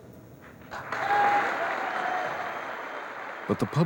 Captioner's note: applause